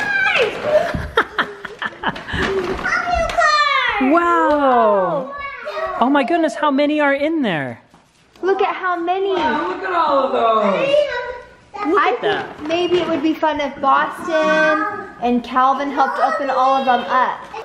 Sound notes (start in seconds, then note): 0.9 laughs